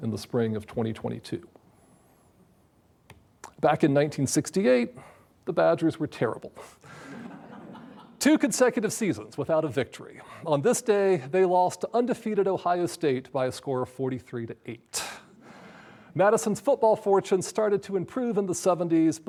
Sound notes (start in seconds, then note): 6.9 audience laughs